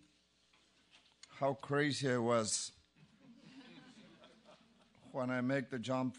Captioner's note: laugh